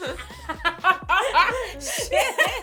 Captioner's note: laughter